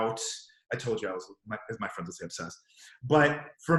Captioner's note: murmurs